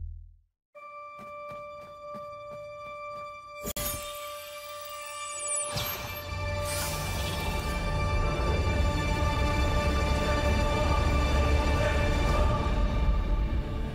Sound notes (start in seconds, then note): 1.0 running footsteps; 6.3 swelling music playing